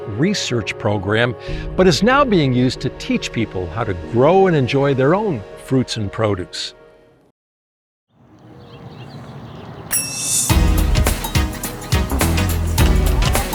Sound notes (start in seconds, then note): 8.1 birds chirping; 9.9 bell dings; 10.4 upbeat music